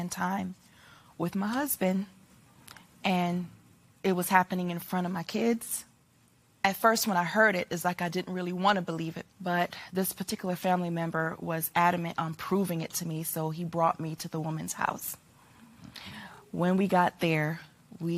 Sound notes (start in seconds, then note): none